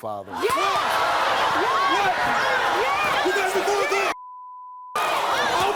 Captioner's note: crowd yelling drowns out speech